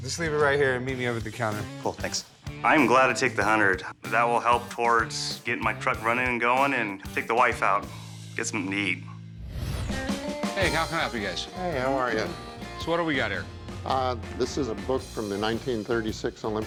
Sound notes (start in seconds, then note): none